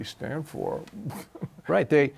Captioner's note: chuckles